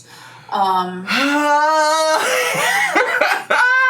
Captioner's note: sighs; laughs